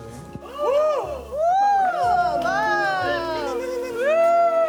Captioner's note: general cries of surprise